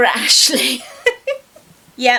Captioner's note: laughs